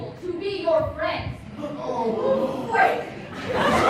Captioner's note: gasps